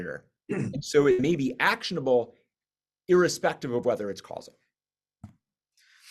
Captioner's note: cough